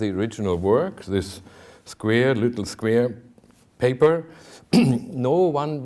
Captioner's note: clears throat